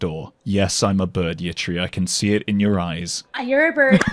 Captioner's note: laughs